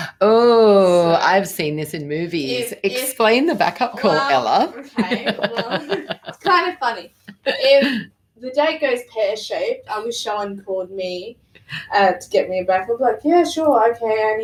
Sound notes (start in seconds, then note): 4.9 laughing